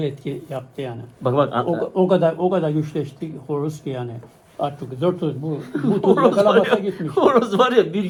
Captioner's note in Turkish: kahkaha